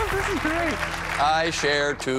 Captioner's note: applause